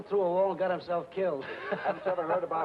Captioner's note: happy laughing